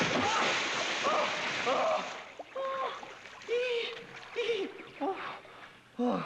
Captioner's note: groaning and panting